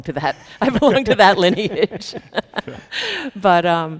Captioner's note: chuckles